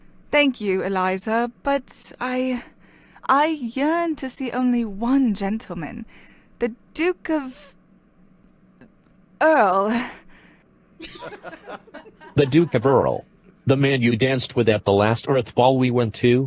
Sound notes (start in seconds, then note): 11.1 scattered chuckles